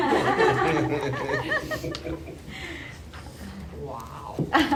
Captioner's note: laughter